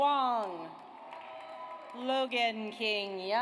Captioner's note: audience applauds